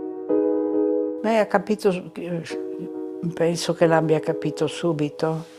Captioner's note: speaking in foreign language